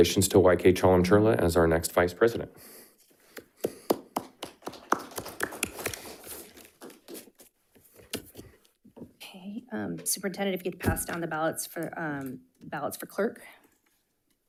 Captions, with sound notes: So congratulations to YK Chalamcherla as our next vice president. (audience clapping) - Okay, Superintendent, if you get passed down the ballots for clerk.